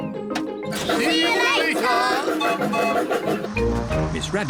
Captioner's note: laughs; toots whistle